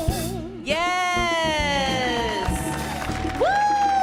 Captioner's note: audience cheers